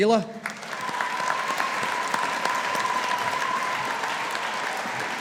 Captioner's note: audience applauding